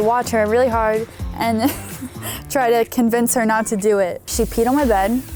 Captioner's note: laughs